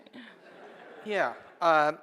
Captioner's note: laughing